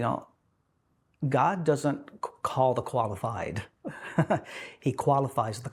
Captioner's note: chuckling